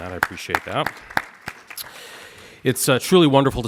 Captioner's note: audience applauds